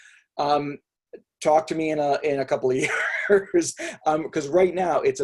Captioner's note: laughs